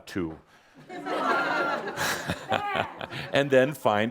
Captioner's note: laughter